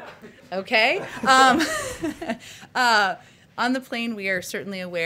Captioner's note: laughter